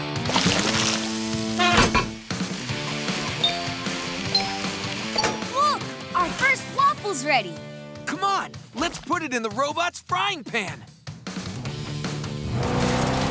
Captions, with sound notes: [chiming] Look! Our first waffle's ready! C'mon, let's put it in the robot's frying pan.